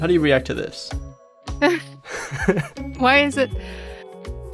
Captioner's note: laughs